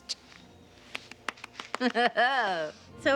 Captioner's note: laughing